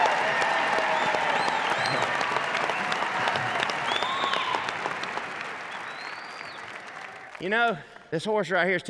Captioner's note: crowd claps